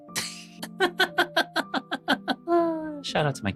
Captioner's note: laughing